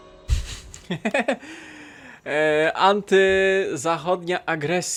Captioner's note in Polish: śmiech